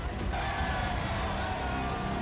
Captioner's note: people cheering